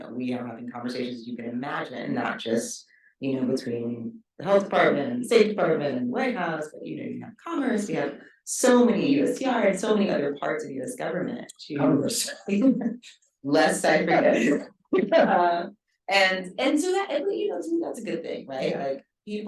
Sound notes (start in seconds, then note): 12.8 chuckles and speaking faintly; 14.9 guffaws